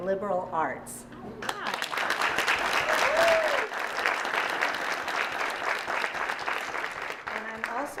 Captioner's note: applause